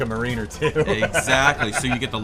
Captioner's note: laughs